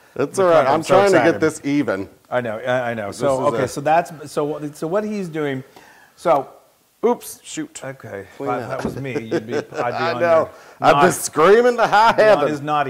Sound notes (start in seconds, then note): 8.5 laugh